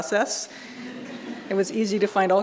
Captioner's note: audience laughing